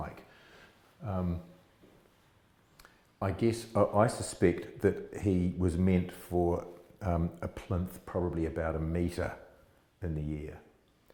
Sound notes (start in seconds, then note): none